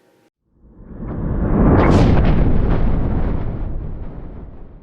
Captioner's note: rumbling